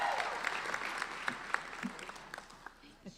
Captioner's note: applauding